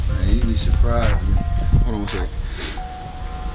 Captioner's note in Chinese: 電話鈴聲響